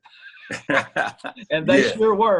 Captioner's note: laughter